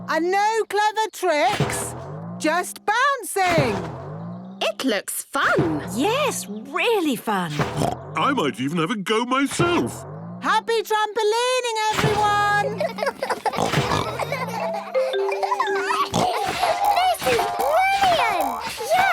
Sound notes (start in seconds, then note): 7.5 snorts; 12.6 all laughing; 15.5 giggles, snorts